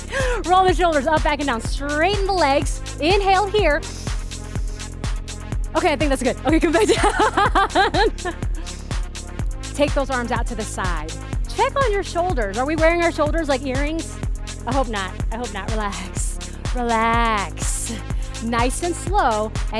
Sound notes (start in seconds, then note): 6.7 laughs